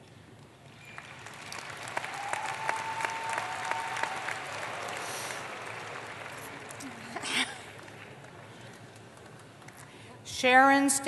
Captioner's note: applause